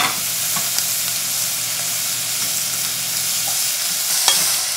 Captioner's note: pot sizzling